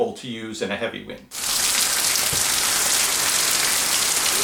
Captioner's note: rain